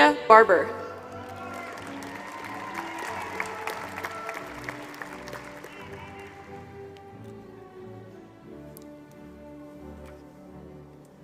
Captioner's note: applause